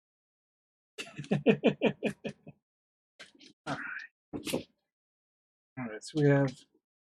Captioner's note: laughs